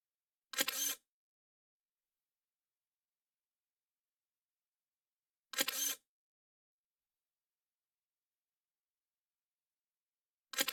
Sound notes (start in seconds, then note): 0.5 camera shutter; 5.5 camera shutter